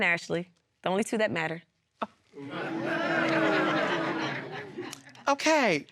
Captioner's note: audience exclaiming